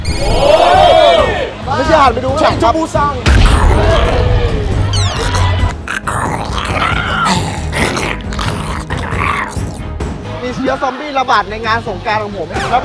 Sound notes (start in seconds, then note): 4.9 zombie screaming; 5.1 zombie gurning